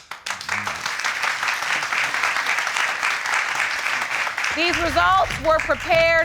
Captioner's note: audience clapping